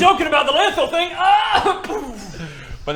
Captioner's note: poooofh